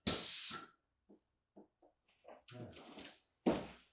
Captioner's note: air fizzing